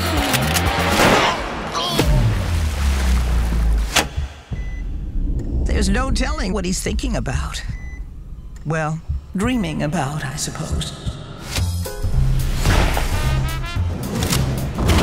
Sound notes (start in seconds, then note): 0.1 gun cocks; 1.1 gunshot; 4.4 machinery beeping; 11.6 jazz music